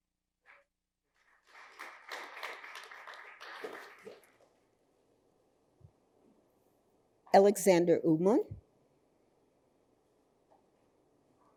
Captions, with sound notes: (audience applauding) - Alexander Ullman.